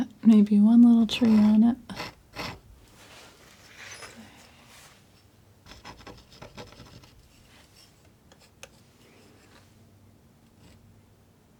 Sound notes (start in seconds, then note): 3.6 scratching